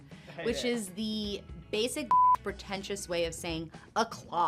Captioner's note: beep